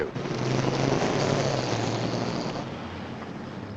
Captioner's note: motor revs